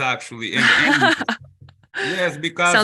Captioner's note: laughs